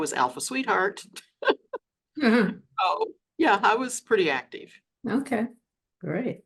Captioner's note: laughs